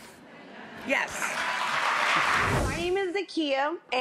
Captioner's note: audience clapping